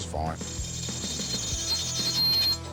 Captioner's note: grinding noise